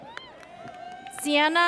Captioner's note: audience cheers